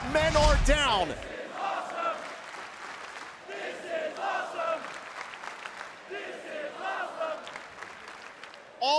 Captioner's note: crowd cheering